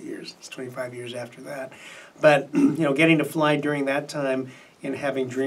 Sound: clears throat

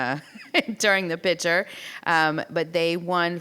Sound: laughs

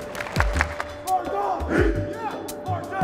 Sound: team claps; team grunts

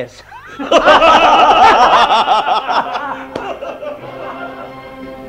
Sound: everyone laughs heartily

